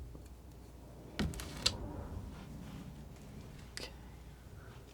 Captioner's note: scratching